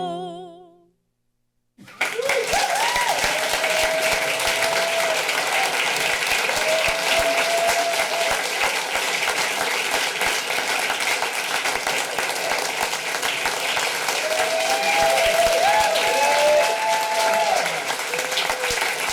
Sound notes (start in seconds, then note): 0.0 singing; 1.9 applause